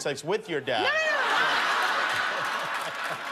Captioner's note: laughter